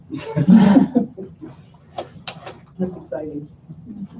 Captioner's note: laughter